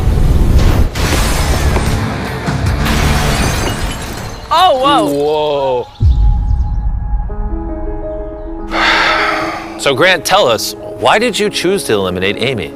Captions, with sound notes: Oh, whoa. Whoa! [heavy exhale] So, Grant, tell us, why did you choose to eliminate Amy?